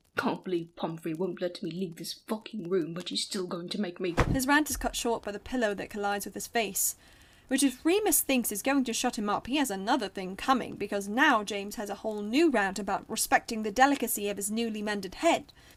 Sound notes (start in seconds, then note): 4.1 pillow being thrown